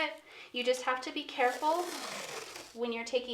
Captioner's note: masking tape rustling